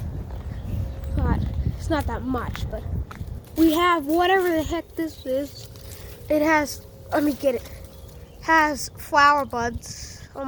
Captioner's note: nature sounds